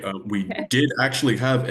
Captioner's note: laughs